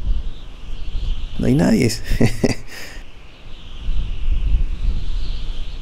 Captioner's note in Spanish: risas